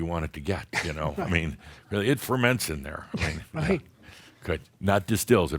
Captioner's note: chuckles